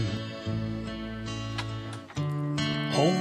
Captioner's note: door clicking shut; dog feet clicking on pavement